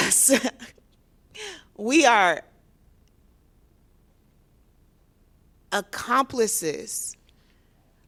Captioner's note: laughter